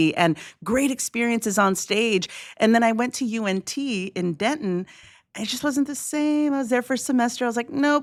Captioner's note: none